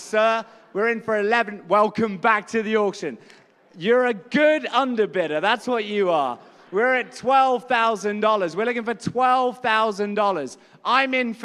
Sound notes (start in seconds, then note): none